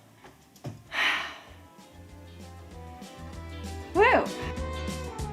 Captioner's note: sighing; upbeat music